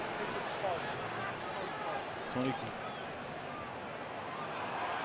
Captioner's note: onfield chatter